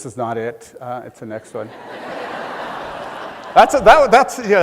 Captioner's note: laughing